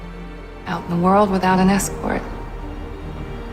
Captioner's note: voiceover